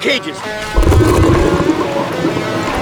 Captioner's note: water rushing; rock guitar music